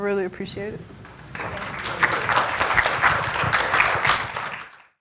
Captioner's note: audience clapping